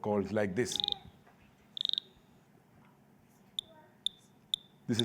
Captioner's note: frogs croaking